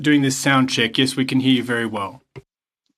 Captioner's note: speaking French